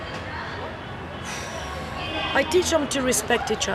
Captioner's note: sighs